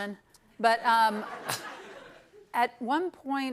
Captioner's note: laughter